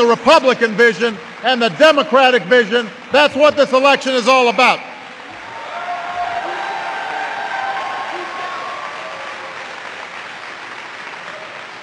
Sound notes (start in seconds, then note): 0.0 applause; 8.7 applause